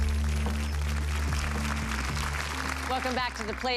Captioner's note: audience applause